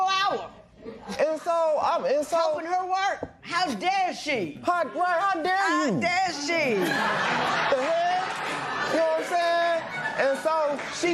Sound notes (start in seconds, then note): 6.2 laughter